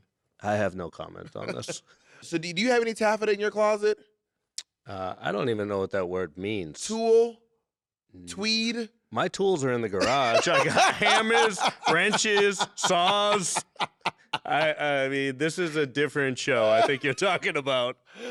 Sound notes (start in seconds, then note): 10.0 laughing